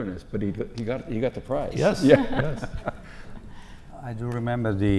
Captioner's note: laugh